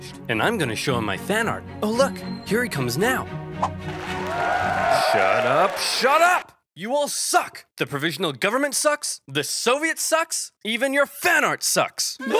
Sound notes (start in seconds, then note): 3.7 crowd cheering and applauding; 12.2 crowd sobbing